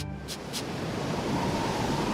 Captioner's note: wind whistling